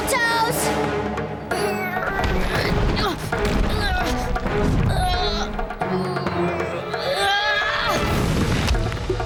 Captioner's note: grunting